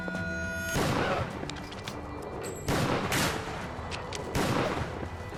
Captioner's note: gunshots banging